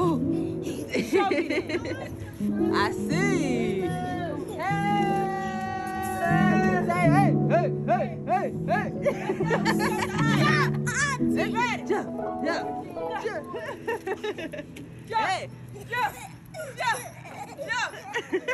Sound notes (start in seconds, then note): 0.6 woman giggling; 8.6 everyone laughing